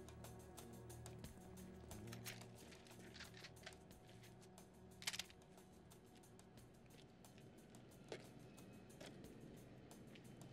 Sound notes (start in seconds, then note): 1.8 guns cocking